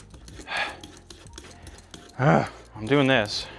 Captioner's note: groans